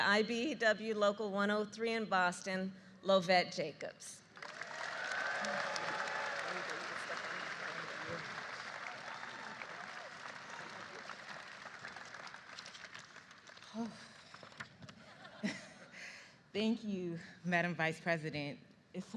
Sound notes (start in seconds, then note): 5.9 applause